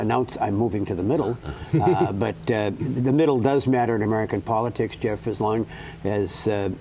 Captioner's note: laughter